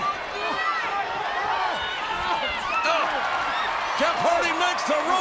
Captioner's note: audience cheering